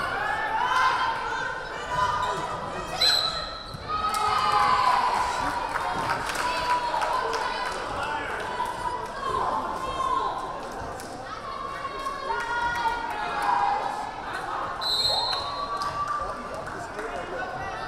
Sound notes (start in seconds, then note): 3.0 whistle blaring; 3.8 crowd cheering; 14.8 whistle blaring